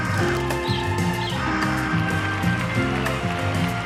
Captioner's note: water splashes; birds chirping; upbeat music continues; audience applauding